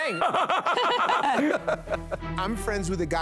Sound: laughter

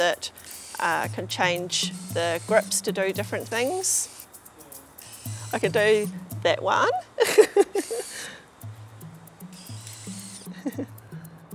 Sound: laughs

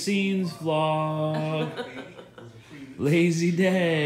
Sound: laughing

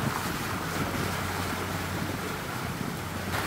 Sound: water splashing

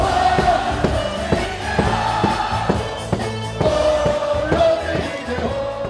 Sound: crowd chanting in foreign language

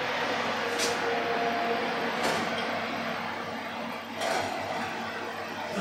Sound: oven roarin again

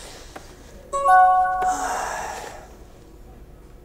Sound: phone beeps

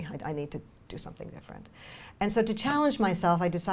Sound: none

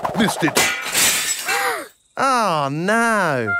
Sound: shatters

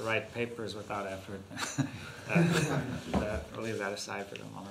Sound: laughs

